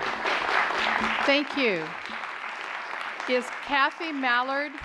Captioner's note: applause